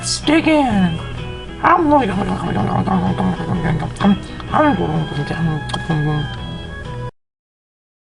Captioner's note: sounds of eating